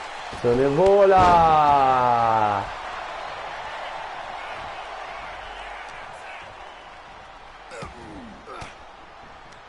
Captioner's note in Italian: Applauso